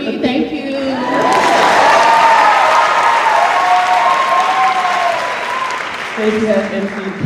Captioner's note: cheers